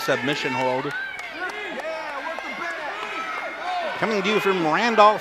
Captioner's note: audience cheers